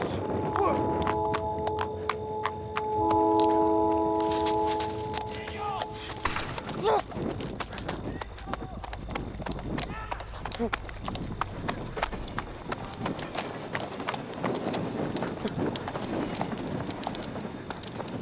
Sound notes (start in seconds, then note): 0.0 train horn; 6.2 distant gun firing; 8.2 Ty and Sam yelling in the distance; 13.2 train passing